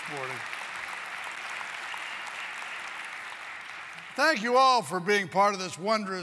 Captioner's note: applause